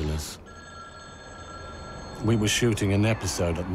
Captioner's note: phone ringing